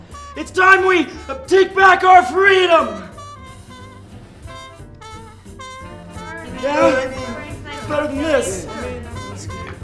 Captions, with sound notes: It's time we take back our freedom! [noises of agreement] Better than this.